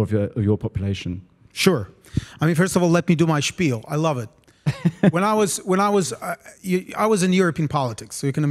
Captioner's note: laugh